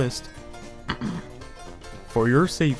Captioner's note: ahem